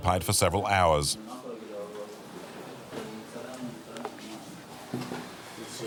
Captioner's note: Hebrew spoken audio